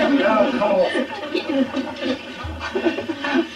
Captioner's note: laughter